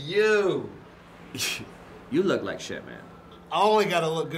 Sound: chuckles

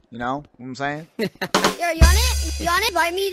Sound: he-he-ha

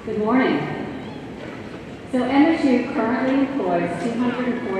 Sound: none

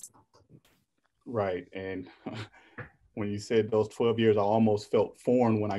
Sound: laughs

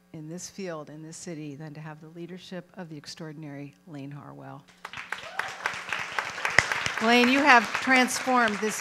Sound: applause

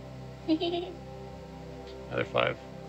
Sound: woman giggling

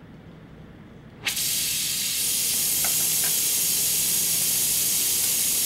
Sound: torch hissing noises

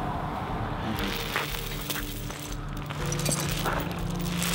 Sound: chains rattling

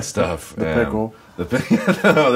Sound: laughs

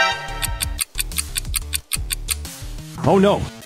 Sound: clock rapidly ticking

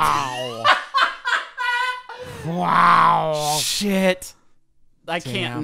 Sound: laughs

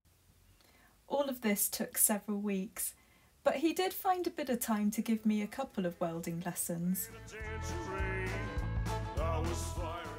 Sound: voiceover

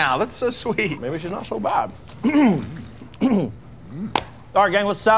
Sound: clearing throat

